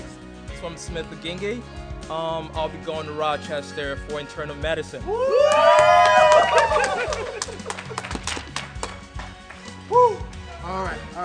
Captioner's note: cheering